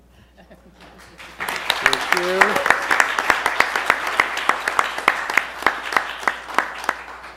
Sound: applause

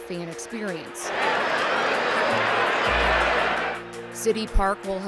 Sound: crowd shouts

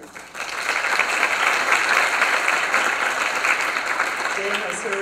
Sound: applause

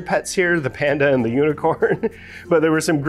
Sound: laugh

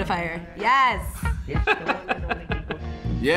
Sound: laughs

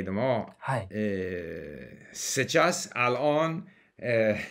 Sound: Arabic

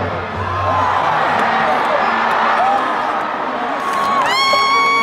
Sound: crowd cheering

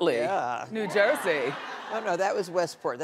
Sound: audience laughing

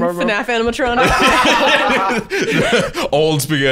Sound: both laughing

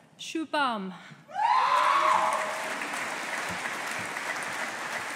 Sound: audience applauding

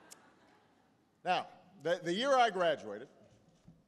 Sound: laughter

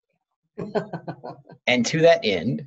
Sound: laughs

